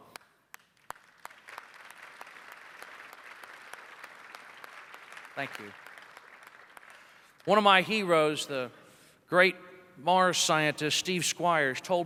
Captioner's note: applause